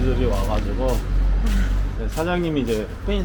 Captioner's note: sigh